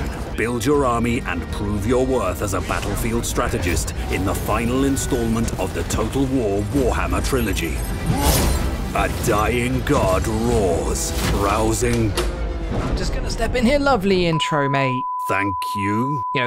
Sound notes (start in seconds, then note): 11.2 door opens